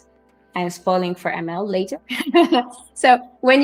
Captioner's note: laughs